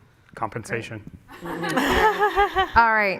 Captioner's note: laughter